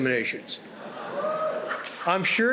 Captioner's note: audience cheering